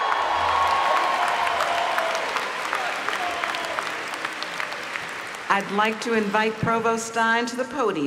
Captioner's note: applause